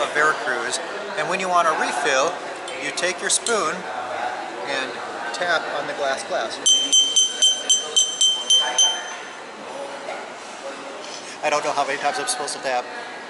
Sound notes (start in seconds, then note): 7.8 sounds of Tapping